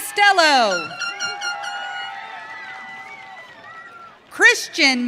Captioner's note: audience cheering